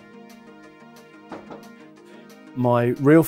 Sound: knock on door

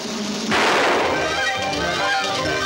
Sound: drumroll; starter Pistol Fires

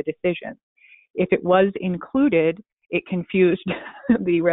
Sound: chuckles

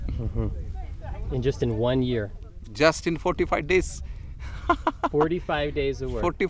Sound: laughs

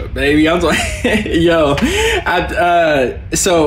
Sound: laughs

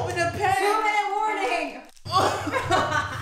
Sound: laughs

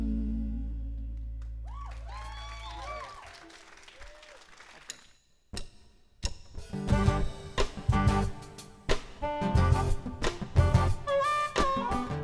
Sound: applause

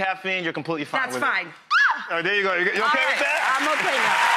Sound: squeals; audience applause

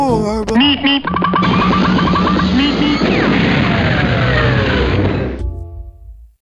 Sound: pop* meep meep *rocket takeoff

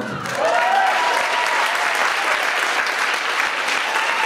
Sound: audience applauds

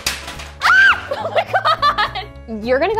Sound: screams

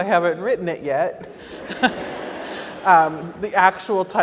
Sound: audience laughs

